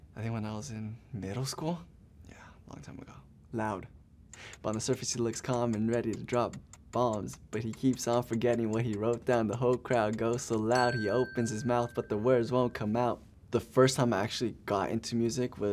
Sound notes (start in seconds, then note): 4.5 timer ticking; 10.6 bell rings